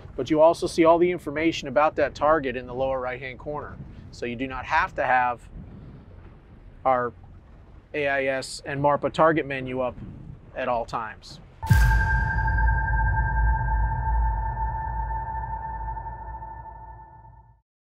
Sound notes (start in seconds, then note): 11.6 bell ringing